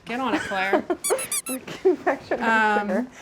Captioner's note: squeak